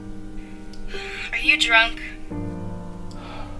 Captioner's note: sighs